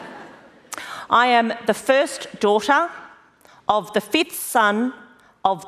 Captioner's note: laughter